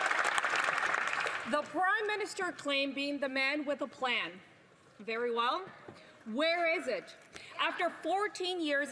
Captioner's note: applause